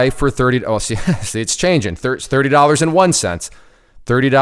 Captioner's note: laughs